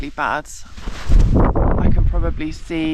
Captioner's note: wind gust